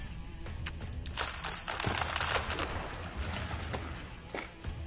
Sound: letters crackle

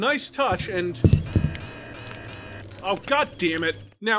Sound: alarm goes on

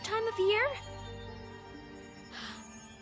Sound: gasping

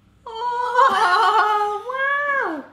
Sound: cheering

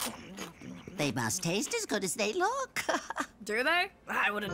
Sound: laughing

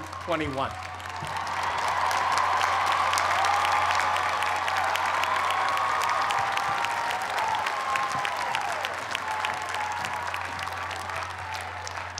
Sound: cheers and applause

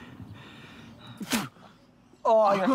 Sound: Miklos spits

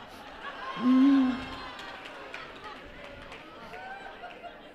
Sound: laughter

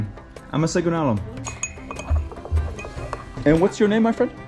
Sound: thanks in foreign language

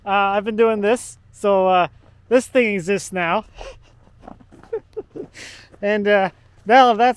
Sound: laughs

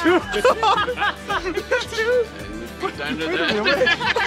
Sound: laughs

